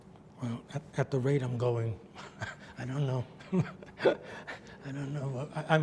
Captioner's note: laughs